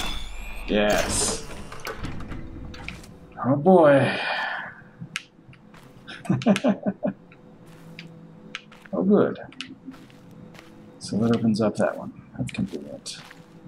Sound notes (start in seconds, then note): 6.0 chuckles